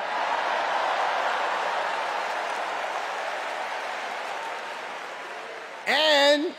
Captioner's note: cheers and applause